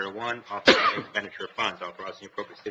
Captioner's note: coughing